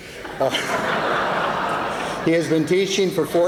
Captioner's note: laughter